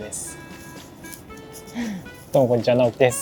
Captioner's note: laughs